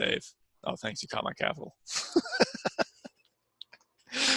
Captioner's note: laughs